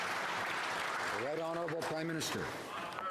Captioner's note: cheering; some Applause